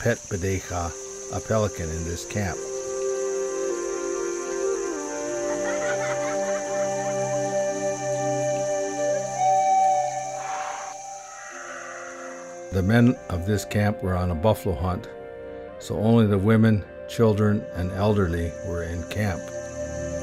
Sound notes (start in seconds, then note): 5.5 children laughing; 10.4 horse whinnying